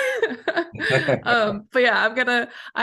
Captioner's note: laughter